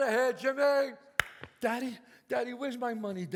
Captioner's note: claps